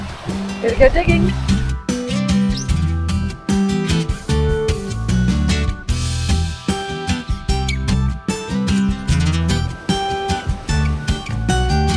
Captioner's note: waves crashing on the sand